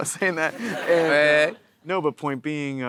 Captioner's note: audience laughing